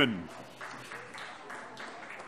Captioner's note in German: Beifall